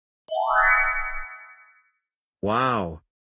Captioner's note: chimes